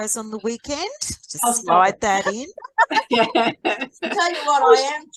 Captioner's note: everyone is laughing